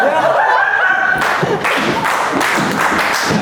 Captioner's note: burst in laughter